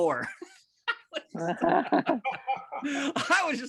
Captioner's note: group laughing